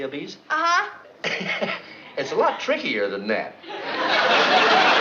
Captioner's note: chuckles